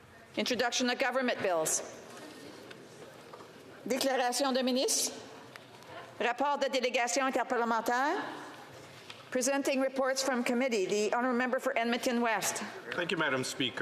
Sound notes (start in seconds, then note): 10.6 speaking French